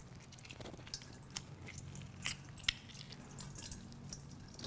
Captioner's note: liquid dripping